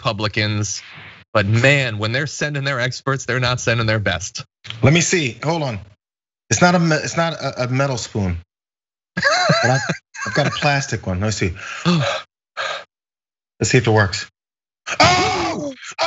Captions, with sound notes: but man, when they're sending their experts they're not sending their best. >> Let me see, hold on. It's not a metal spoon. [LAUGH] >> But I've got a plastic one. Now, let's see let's see if it works.